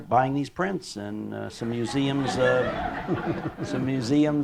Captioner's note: laughter